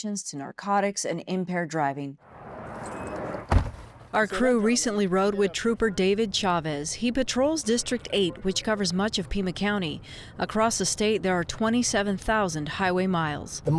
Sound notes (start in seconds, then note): 2.2 traffic roaring; 2.5 car beeps; 2.6 door slams